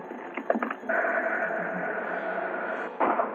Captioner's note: truck rattling